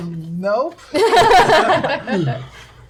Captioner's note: laughter